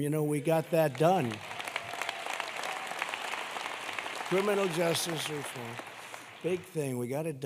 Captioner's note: applause